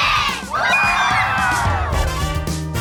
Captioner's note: all whoop